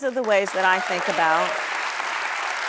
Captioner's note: applause